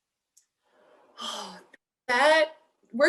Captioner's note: exhales